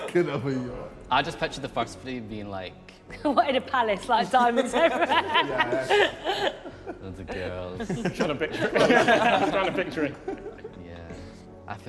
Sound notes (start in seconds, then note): 4.4 all laughing